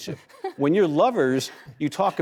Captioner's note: laughing